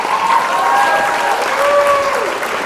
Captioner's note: applause